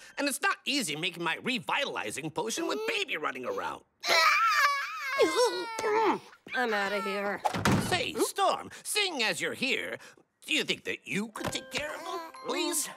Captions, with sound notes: and it's not easy making my revitalizing potion with Baby running around. [crying] Mm. I'm out of here. Say, Storm, seeing as you're here, do you think that you could take care of him? Please?